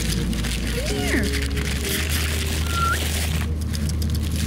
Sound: kissing sounds

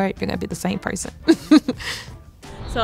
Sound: laughs

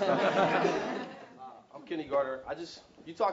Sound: laugh

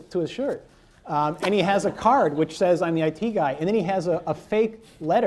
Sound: laughter

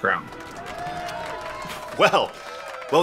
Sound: crowd cheering and clapping

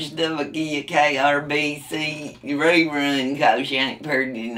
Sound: laughs

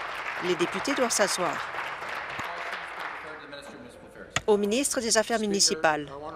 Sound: applause

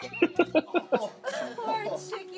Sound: laughs

